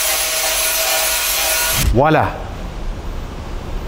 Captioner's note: tool Sound